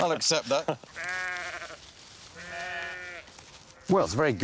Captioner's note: bleating